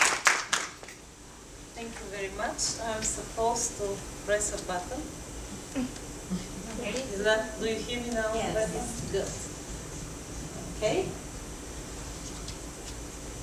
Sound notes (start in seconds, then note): 6.2 quiet murmuring